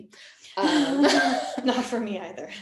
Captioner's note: laughing